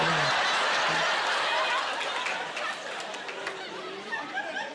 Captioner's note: laughing